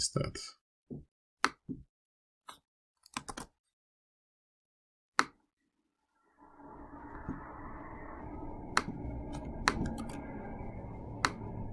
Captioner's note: typing